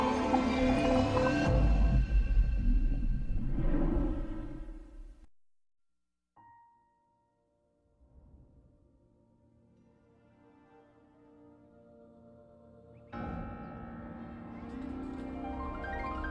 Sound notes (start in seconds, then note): 1.9 dramatic sounds; 12.9 piano music plays